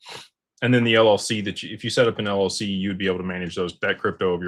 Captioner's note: snorts